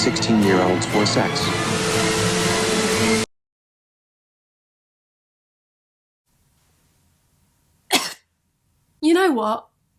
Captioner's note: cough